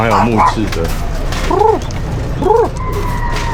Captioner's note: coos